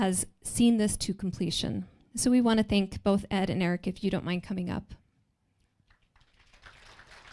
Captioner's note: applause